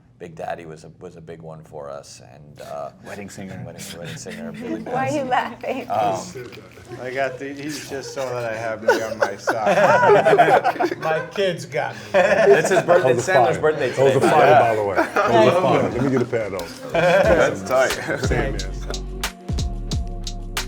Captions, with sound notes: - Big Daddy was a big one for us and Wedding Singer. - Why are you laughing? - 'Cause I got these, just so 'cause I have me on my socks. (laughs) My kids got these. - It's his birthday. It's Sandler's birthday today by the way. - Yo, let me get a pat though. (upbeat music)